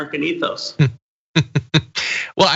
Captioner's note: laugh